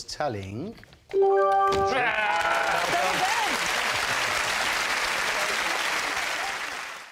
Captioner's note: groans; applause